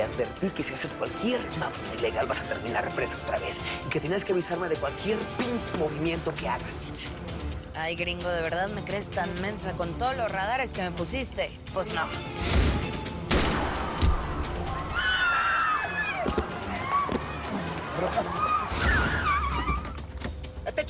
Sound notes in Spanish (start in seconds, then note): 13.2 Disparos; 14.8 Gritos; 18.6 Chirrido de gomas